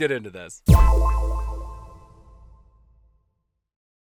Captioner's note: chime echoing